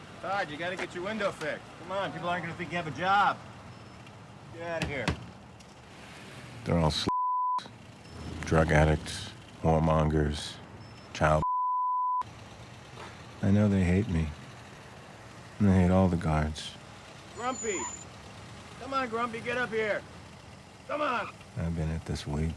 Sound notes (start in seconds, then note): 4.8 hand thudding